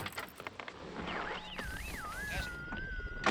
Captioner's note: radio buzzing